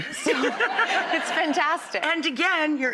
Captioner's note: Rachael chuckles